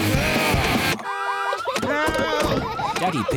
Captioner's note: heavy rock music playing; alarm blaring